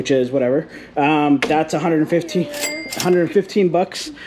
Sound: cash register dinging

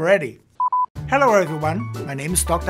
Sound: beeping

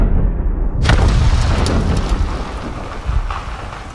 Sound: crash

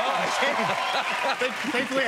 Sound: laughs

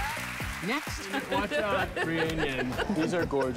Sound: laughter

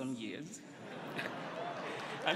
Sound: laughter; applause

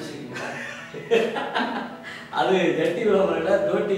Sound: laugher

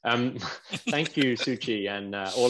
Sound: laughs

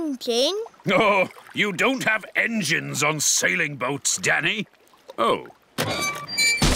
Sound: chuckling

